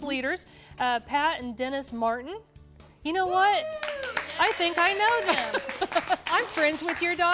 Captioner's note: �cheering and applause�